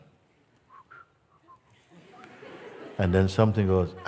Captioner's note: Mooji pfeift; Lachen